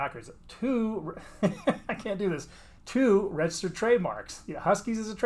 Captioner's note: laughs